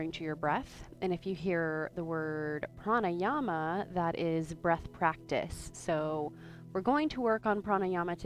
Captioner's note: breathes